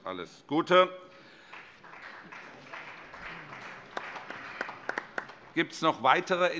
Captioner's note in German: Beifall